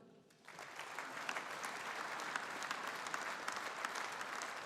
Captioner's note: audience applauding